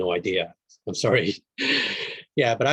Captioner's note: chuckles